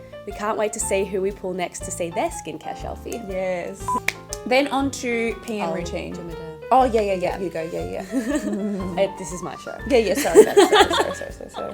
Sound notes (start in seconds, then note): 10.1 laughs